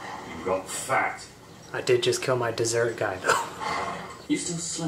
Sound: chuckles

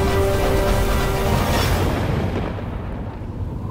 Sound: wind blows

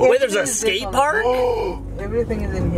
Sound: gasps

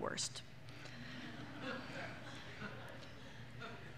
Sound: laughter

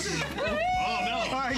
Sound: cheering

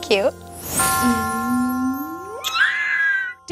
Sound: bell rings; shrieks

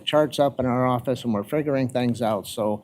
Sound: none

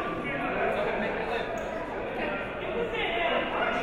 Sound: chatting

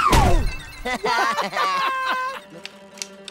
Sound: laughing

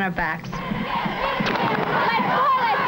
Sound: cheering and shouting

